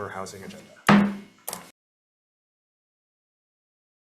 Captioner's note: gavel bangs